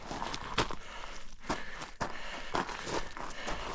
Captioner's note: heavy, exhausted, breathing